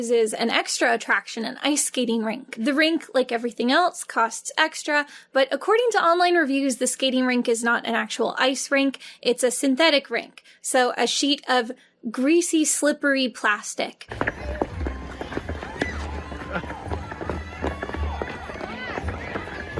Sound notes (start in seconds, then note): 14.1 feet clomping unpleasantly